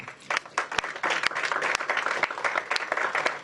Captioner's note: applause